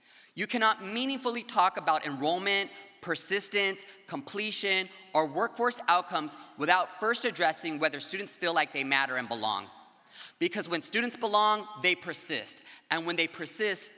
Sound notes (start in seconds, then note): none